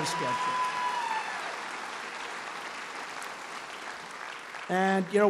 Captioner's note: applause